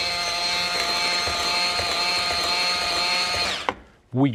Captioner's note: mixer whirring